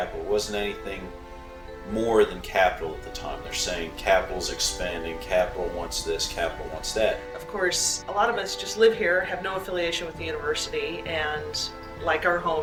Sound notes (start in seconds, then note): none